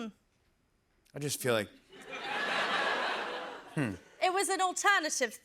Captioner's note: laughter